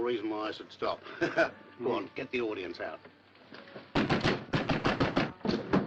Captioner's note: laughs